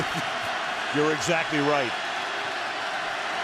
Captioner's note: laughs